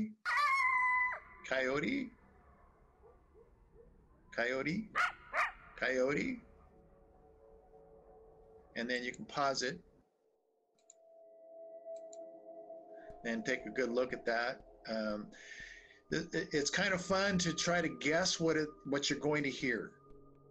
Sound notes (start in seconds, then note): 0.2 howling; 4.9 yipping